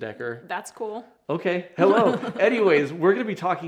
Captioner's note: chuckles